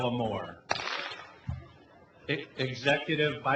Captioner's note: clap